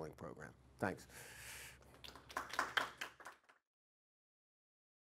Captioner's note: audience clapping